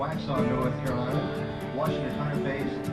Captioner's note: announcer over PA